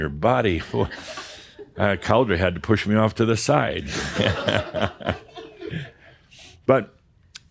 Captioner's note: Adamus chuckles